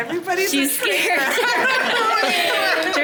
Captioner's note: cast members laughing